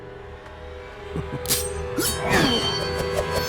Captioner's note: chuckles and grunts